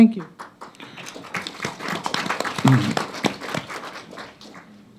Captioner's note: applauding